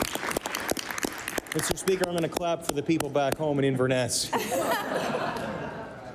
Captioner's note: applause